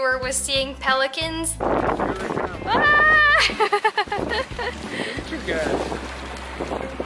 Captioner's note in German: Gelächter